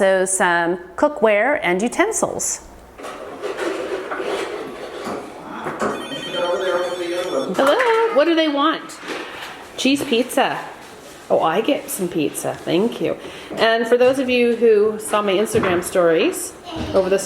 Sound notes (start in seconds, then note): 5.8 telephone ringing